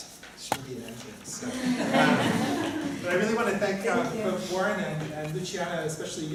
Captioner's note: laughter